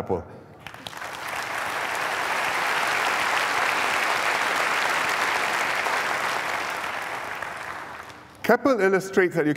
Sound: applause

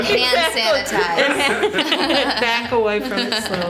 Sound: laughing

